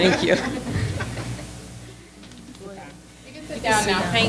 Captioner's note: audience laughs